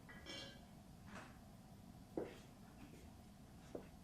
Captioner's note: none